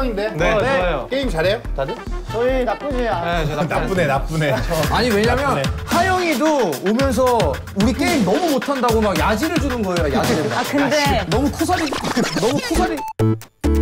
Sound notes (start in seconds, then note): 4.7 laughs